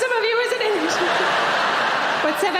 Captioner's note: audience laughing